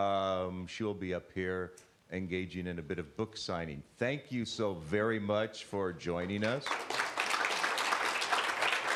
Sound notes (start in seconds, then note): 6.2 applause